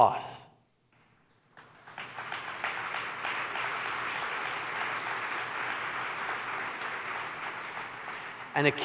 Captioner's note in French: Applaudissements